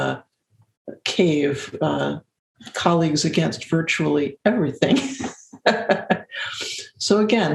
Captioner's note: laugh